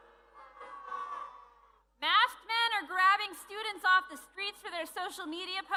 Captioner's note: booing